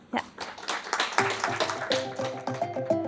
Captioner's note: audience clapping